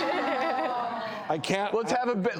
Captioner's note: audience moaning